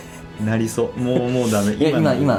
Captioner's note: laughs